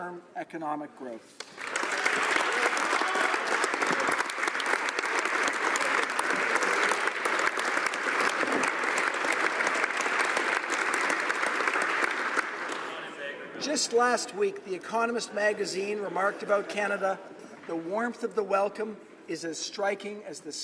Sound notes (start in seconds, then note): 7.3 applause